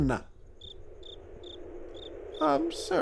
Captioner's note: Kricketots chirp; wind blows